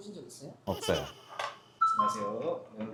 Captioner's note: haha